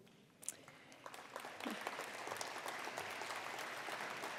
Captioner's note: applause